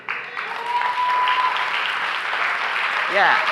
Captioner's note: applause